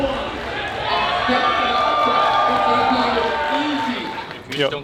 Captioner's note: crowd cheering